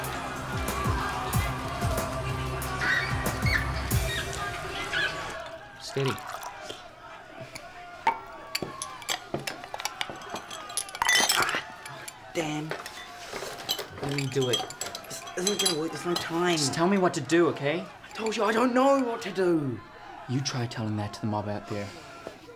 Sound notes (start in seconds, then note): 7.2 yelling